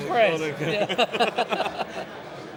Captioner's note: laughing